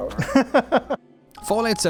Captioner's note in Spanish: riendo entre dientes